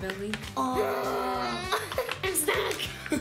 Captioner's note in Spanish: Tanto gemido